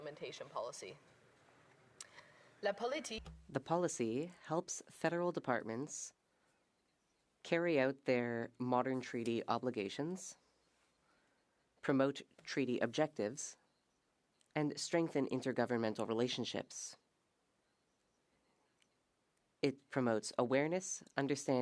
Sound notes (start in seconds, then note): 5.5 speaking French